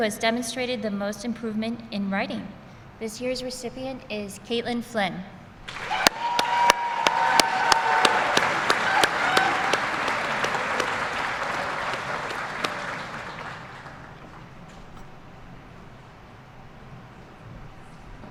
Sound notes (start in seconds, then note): 10.5 applause